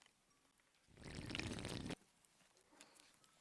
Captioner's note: slurp